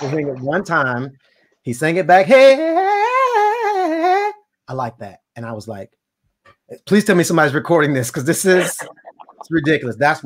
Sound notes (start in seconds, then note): 2.3 vocalizes